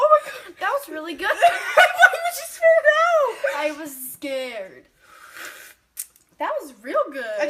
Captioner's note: laughing